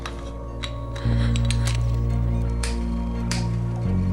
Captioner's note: gasps